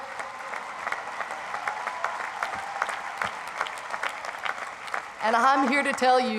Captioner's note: crowd applauds